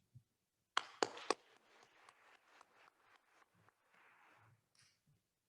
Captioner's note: attendees applauding